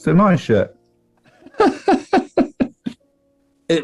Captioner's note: laughing